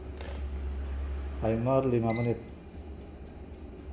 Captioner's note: timer beeping